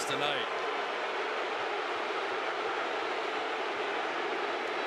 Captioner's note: crowd booing